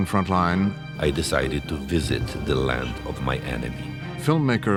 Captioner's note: voice-over